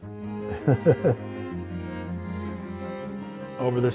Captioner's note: laughing